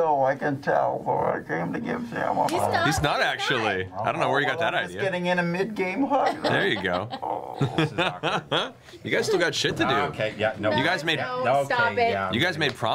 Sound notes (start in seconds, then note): 6.0 laughter